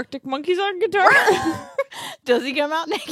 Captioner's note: laughs